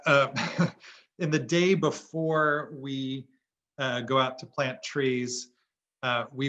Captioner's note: laugh